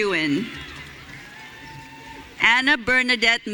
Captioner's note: audience cheering